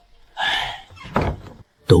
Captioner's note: sigh